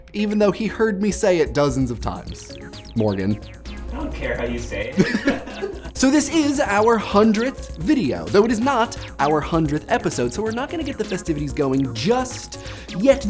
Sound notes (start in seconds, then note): 4.9 laughter